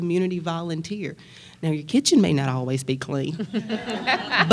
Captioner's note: laughter